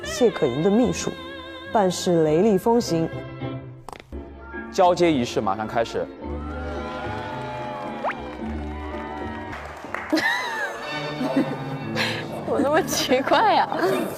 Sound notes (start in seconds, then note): 11.1 hahahaha